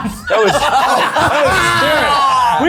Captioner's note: everyone laughing